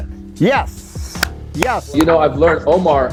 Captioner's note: claps